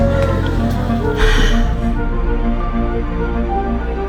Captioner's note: sighs